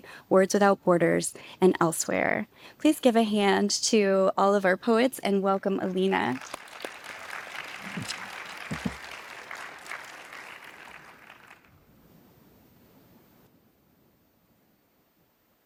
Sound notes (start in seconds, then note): 5.9 participants clap